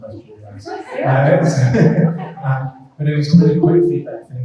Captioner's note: group laughing